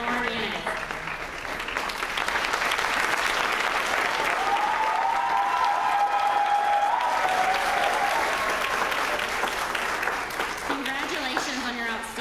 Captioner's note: applause